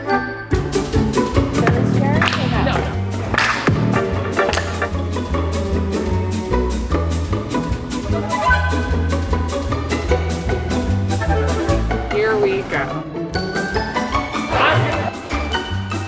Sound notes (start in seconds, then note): 1.6 group clapping; 3.9 upbeat music